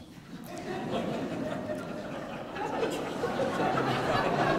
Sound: audience laughing

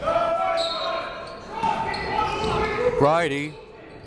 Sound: whistle

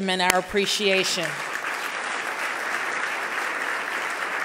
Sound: loud clapping

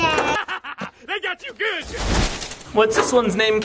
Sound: laughing

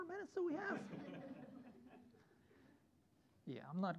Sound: students laughing

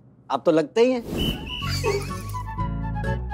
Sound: giggling

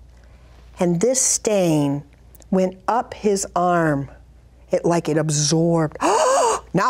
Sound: gasp

